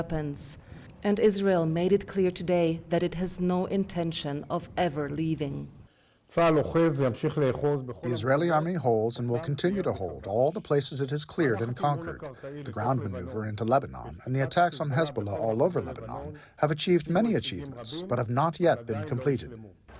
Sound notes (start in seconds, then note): 8.4 through translator